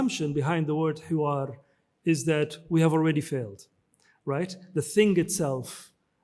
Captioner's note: speaks in foreign language